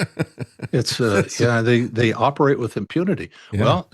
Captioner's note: laughs